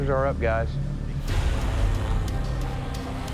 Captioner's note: buzzing